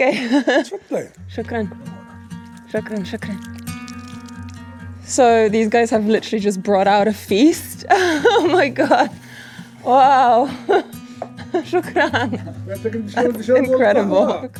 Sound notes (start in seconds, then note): 2.1 speaks foreign language; 11.8 speaks foreign language